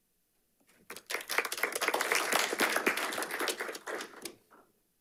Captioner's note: audience applauding